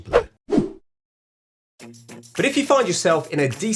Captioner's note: graphics whooshing